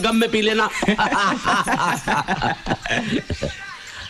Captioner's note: Laughs